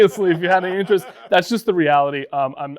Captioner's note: both laughing